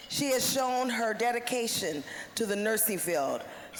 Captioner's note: none